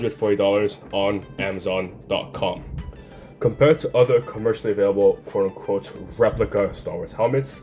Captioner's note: tap tap